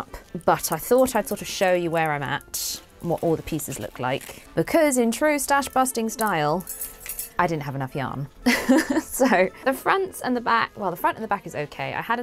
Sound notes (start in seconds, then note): 8.5 laughs